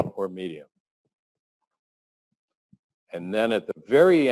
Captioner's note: pause